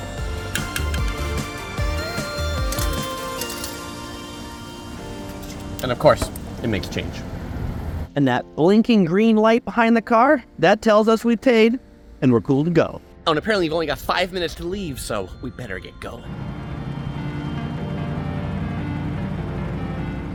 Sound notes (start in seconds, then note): 0.0 upbeat music; 1.9 change clinking; 16.2 dynamic music